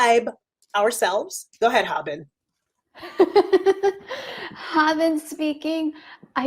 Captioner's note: laughs